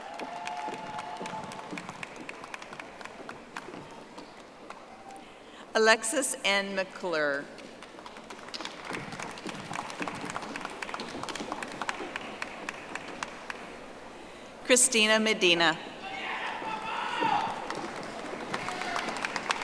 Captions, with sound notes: (audience applauding) Alexis N. McClure. (audience applauding) Christina Medina.